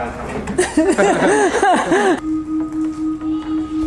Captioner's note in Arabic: يضحك